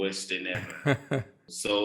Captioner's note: laugh